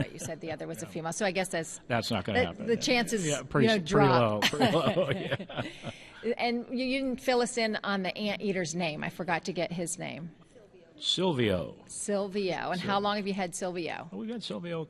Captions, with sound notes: >> OH, THAT'S RIGHT, YOU SAID THE OTHER ONE WAS A FEMALE. SO THE CHANCE IS PRETTY -- (LAUGHTER) AND WILL YOU FILL US IN ON THE ANT EATER'S NAME? I FORGOT TO GET HIS NAME. >> SYLVIA.